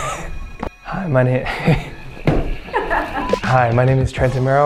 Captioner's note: laughs